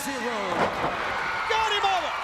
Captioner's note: crowd cheering